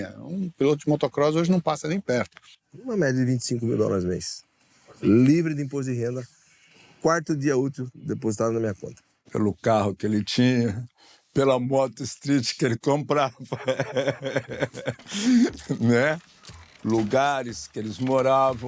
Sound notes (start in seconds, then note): 13.3 laughs